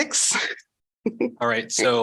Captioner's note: laughter